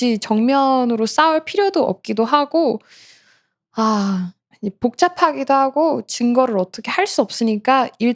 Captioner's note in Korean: 헉 소리